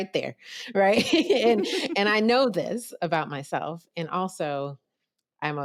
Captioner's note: laughter